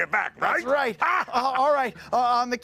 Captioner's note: laughs